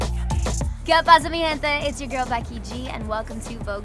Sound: speaking in Spanish

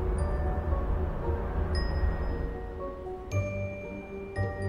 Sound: air whooshing

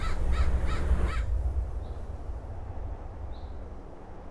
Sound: birds cawing

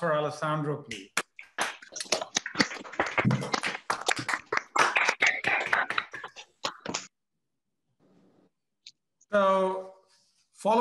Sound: applause

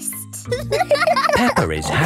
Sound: giggles; laughing

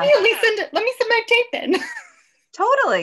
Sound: laughs

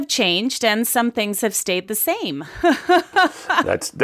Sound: laughs

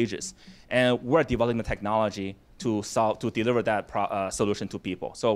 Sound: none

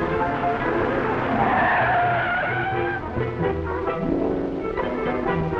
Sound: car screeching

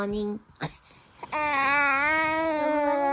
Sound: loud morning babbling

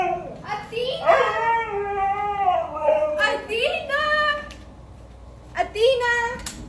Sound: dog howling

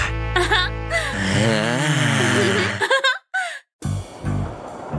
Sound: roaring

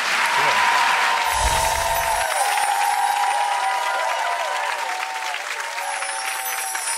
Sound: audience applauding and cheering

